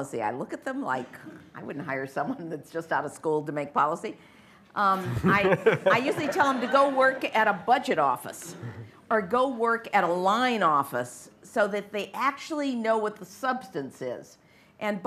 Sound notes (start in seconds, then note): 5.0 laughter